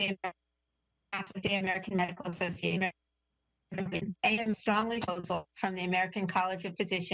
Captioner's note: audio interference